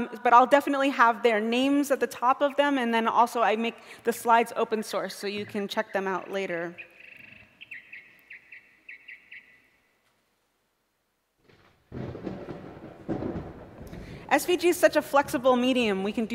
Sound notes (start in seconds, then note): 8.0 chirping; 9.7 thunder booming